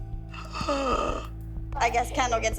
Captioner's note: gasps